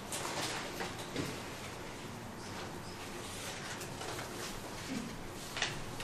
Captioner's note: shuffling of papers